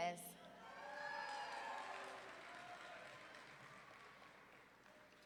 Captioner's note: audience members cheering